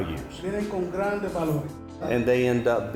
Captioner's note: interpreter speaking in Spanish